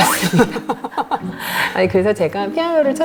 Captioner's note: chuckles